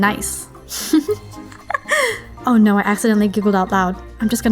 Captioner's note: giggle